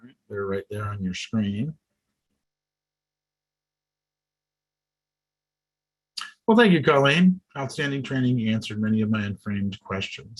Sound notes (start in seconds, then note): none